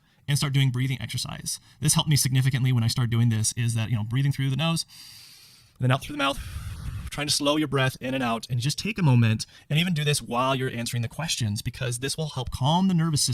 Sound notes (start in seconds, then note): 6.4 air whooshing